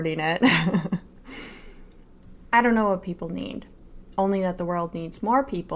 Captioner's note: laughter